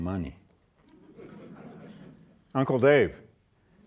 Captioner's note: audience laughing